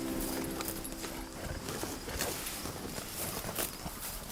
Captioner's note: cows munching